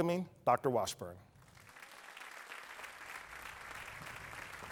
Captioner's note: applause